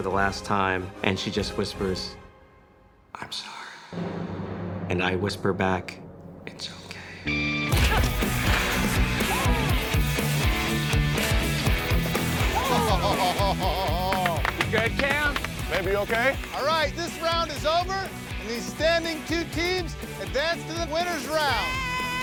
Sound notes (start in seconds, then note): 7.2 grunting; 9.1 contestants exclaiming; 12.5 laughing